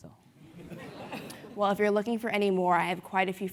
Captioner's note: laugh